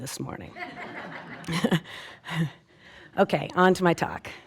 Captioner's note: audience laughing